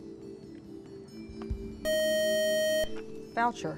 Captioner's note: buzzer